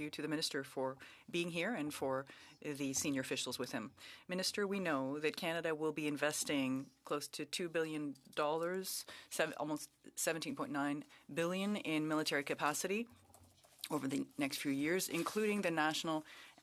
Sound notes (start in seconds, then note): 3.6 speaking French